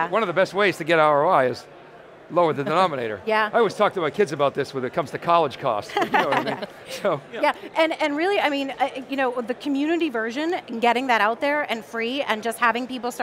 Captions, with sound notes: >> One of the best ways to get our eyes, lower the denominator. I always talk to my kids about this when it comes to college cost so you know what I mean, (laughing) And really, with the community version, getting that out there and free and just having people